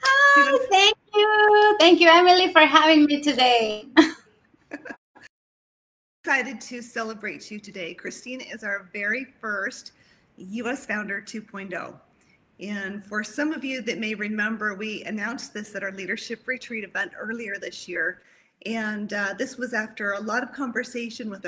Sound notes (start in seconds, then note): 3.9 giggles